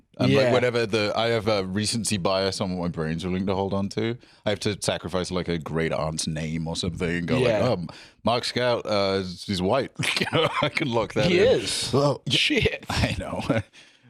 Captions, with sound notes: Like, I have recency bias on what my brain's willing to hold onto. I have to sacrifice a great-aunt's name or something and go, "Um, Mark Scout, he's white." (laughs) - I can lock that in. - He is! Shit! I know.